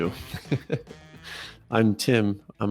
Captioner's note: laughs